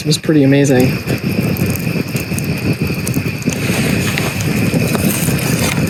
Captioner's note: insects, fire crackling